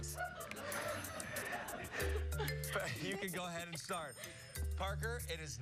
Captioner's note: laughter